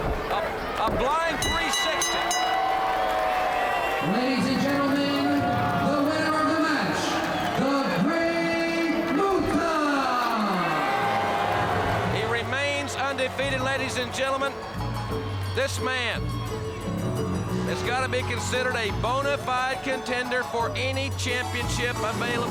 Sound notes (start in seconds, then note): 1.4 bell ringing; 2.8 crowd cheering; 10.3 crowd cheering